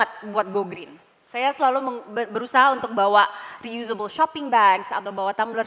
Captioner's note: non-english speech